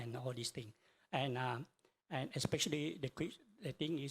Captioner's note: speaks in foreign language